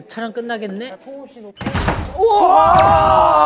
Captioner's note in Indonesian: Membanting!; Arggggh!